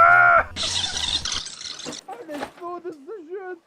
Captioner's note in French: bruit d'une K7 que l'on rembobine